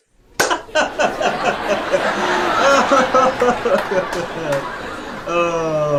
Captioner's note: laughing